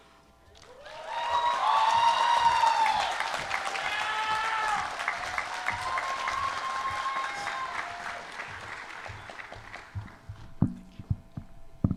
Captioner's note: applause